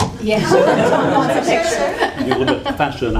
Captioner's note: laughter